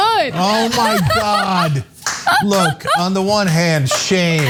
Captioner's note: laugh